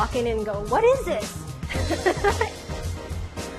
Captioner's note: laughs